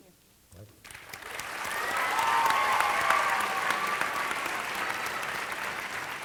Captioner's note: audience applauding